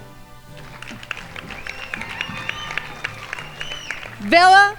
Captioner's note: crowd applauding